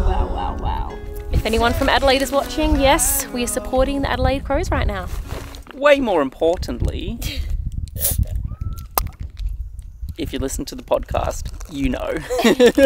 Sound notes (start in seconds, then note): 7.3 drink fizzes; 12.2 laughing